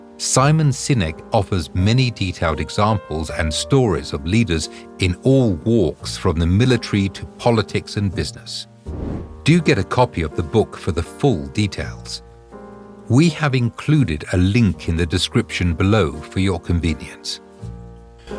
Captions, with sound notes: Simon Sinek offers many detailed examples and stories of leaders in all walks from the military to politics and business. (air whooshing) Do get a copy of the book for the full details. We have included a link in the description below for your convenience.